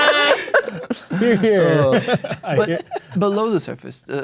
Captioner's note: laughing; players laughing; sighs